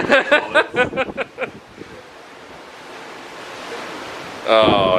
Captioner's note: laughs